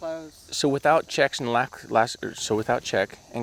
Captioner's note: stammering